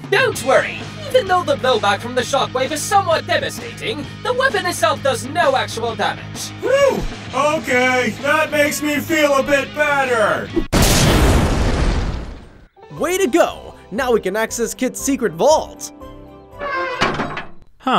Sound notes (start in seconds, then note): 10.6 explosion thudding; 16.8 metal clanking